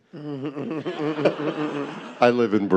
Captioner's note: chuckles; audience laughs